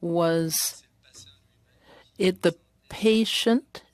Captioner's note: speaking French